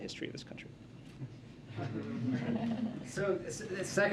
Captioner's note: laughter